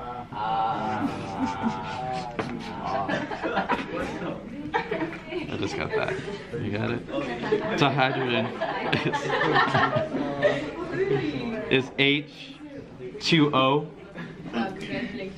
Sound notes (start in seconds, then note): 3.1 students chuckling; 9.7 students laughing